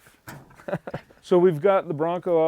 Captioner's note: laughing